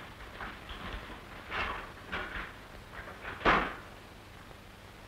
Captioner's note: door noise